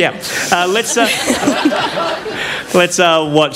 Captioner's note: laughter